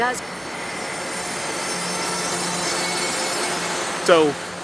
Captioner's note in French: grand bruit du mètro